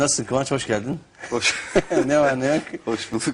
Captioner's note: laughs